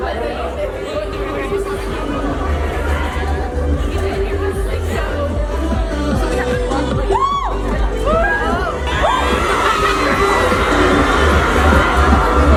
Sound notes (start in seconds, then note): 3.8 electronic pop music; 3.8 people chattering